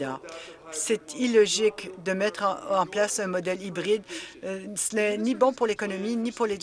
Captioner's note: applause